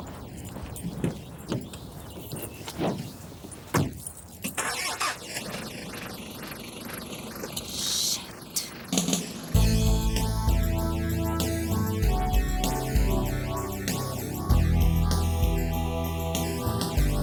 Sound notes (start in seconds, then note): 4.7 car engine revving; 9.5 bright instrumental music